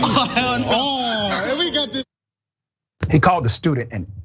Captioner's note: laugh